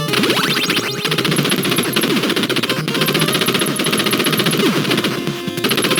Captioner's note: machine gun; laser gun